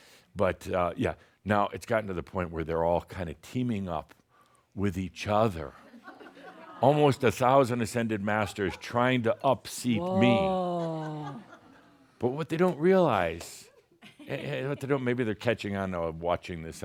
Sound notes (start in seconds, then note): 5.5 more chuckles